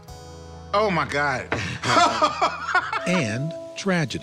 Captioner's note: laughs